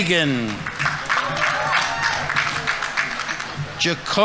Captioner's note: audience applauding